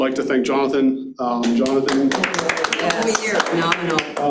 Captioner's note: audience claps